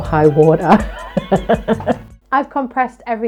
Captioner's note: laughing